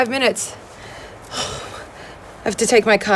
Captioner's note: sighs